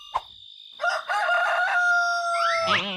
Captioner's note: crowing